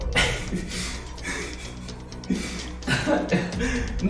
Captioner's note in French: sobs